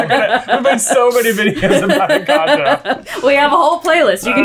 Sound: laughter

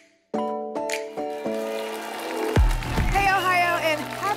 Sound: applause and cheering

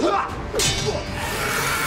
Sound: grunts

